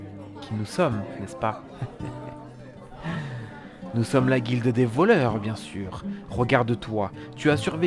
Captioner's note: laughs